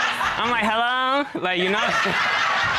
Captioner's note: in high-pitched tone